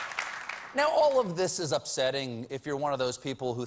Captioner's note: applause